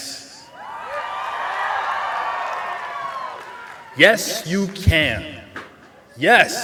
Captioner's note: cheering